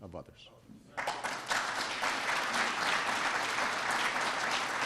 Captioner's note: applause